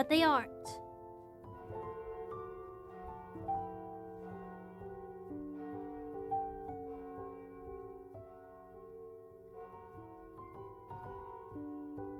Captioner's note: large bell tolls